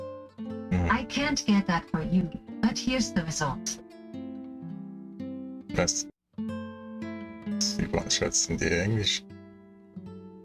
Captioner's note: voiceover